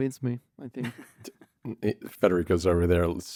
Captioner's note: laughs